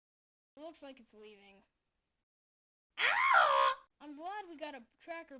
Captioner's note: screams